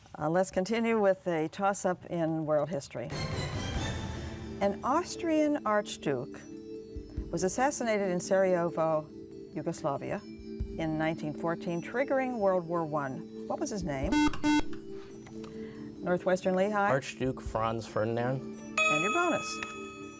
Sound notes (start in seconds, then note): 3.1 dramatic music; 14.1 beep; 20.0 ethereal music